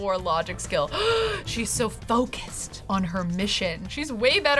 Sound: gasps

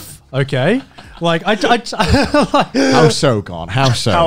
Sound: laughing

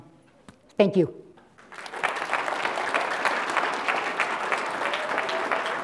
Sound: applause

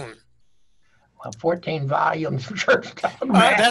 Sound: laughing

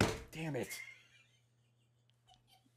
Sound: giggles

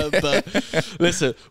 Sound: laughing

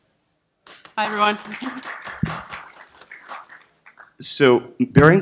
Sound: applause

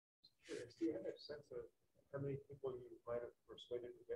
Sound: hmong

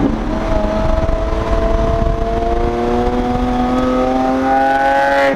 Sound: engine shifting

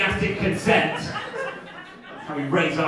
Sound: audience laughing

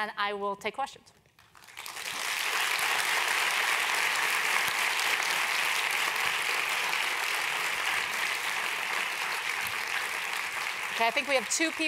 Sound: applause

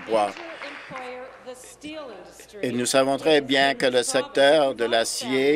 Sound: applause

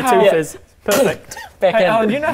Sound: bmph

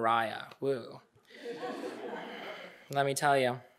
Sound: audience laughing

